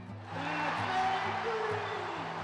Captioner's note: audience cheers